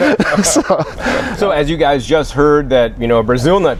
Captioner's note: laughter